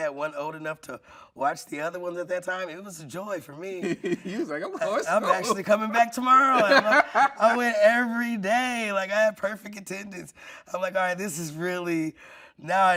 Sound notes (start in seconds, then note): 6.4 laughing